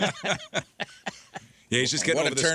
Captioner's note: laughing